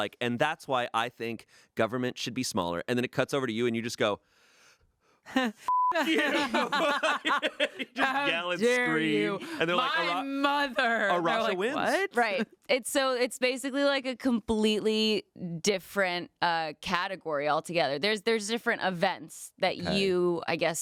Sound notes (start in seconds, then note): 5.6 beep; 5.9 laughing